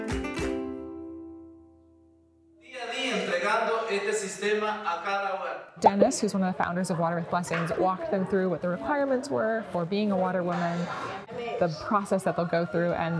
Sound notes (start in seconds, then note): 2.9 speaking foreign language